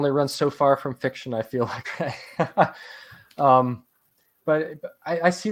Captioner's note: laughs